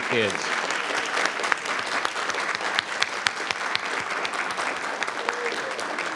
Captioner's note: applause